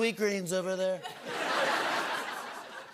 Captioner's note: laughter